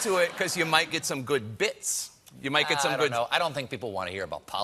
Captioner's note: laughter